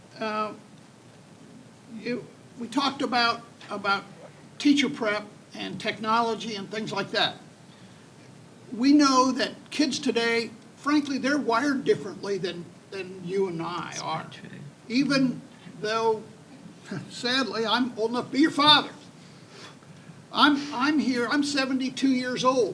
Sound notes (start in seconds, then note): 18.7 chuckles